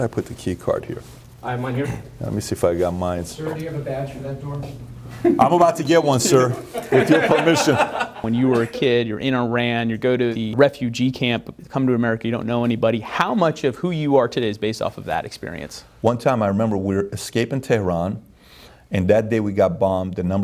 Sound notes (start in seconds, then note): 6.0 laughing